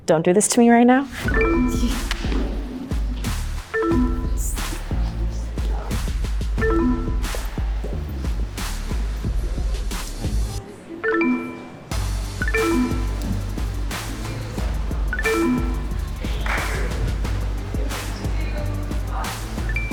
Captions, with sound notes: don't do this to me right now. (electronics beep) (rhythmic music) (electronics beep) (rhythmic music) (electronics beep) (rhythmic music) - Hi. - Hi. (electronics beep) (electronics beep) (electronics beep) (upbeat music)